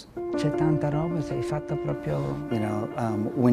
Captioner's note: speaking in foreign language